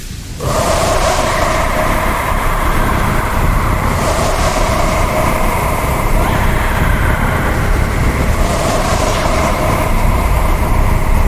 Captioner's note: scream to fire